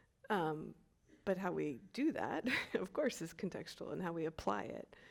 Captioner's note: chuckles